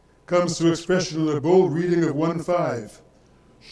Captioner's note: speaks in foreign language